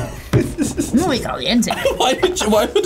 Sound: laughs

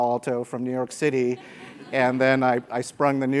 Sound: laugh

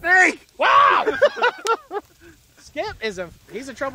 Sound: yelling and laughing

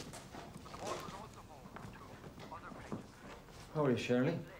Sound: tv playing

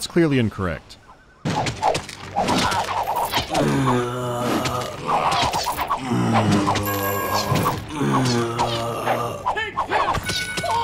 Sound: limp thwacking and loud groaning

